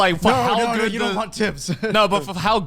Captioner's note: chuckles